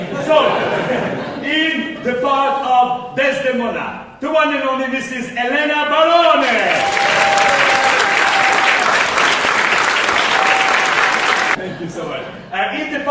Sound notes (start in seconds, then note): 6.4 applause